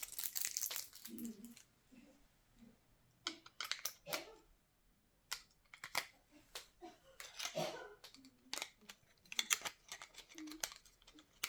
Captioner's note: sounds: Unpack and insert batteries